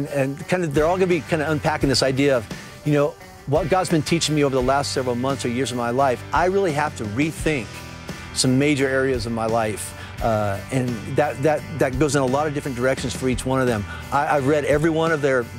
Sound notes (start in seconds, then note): none